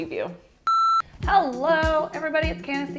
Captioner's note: signal beeps